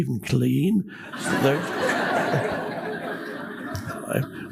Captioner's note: audience laughs